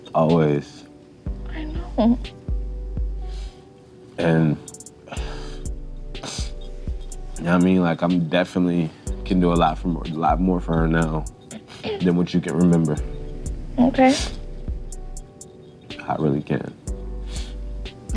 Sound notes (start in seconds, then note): 4.9 sniffles